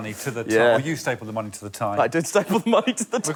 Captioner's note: laughter